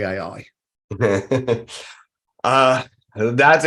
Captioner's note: laughs